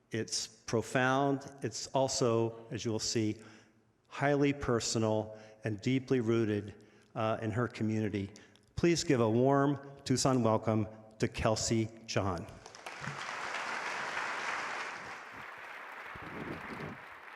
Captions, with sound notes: It's profound, it's also, as you'll see, highly personal and deeply rooted in her community. Please give a warm Tucson welcome to Kelsey John. (audience applauding)